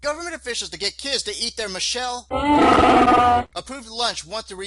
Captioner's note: sound of animal